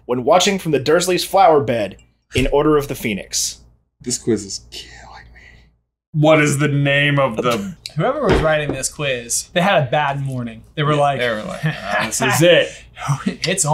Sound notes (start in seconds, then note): 11.7 deep chuckle